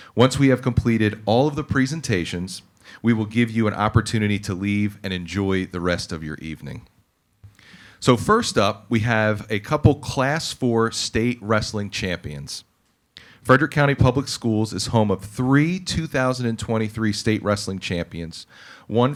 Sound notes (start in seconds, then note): none